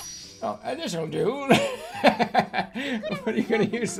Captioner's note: laughs